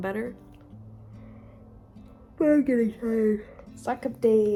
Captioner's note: yawn